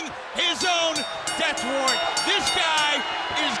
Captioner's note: bell rings